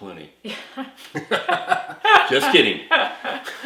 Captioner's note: laughs